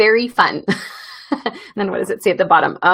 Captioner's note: laughs